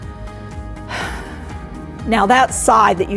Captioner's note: sigh